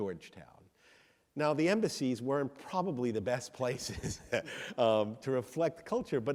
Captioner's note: laughs